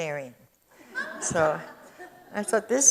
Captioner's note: audience chuckles